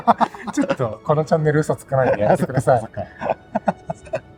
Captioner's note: laughs